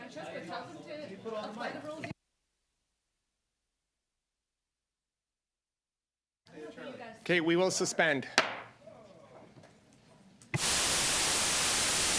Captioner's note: mixed voices